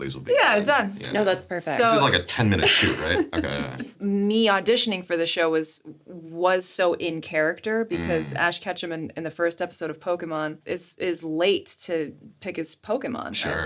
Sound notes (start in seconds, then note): 2.6 Sarah laughs